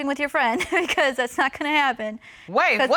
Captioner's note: chuckling